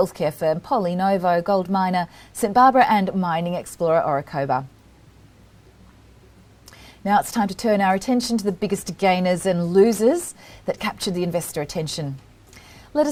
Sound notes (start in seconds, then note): 4.6 pause